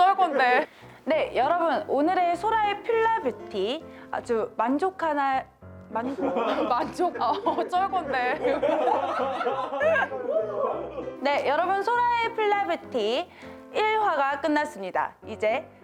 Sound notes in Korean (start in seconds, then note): 6.0 웃음